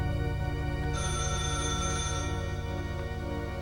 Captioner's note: phone ringing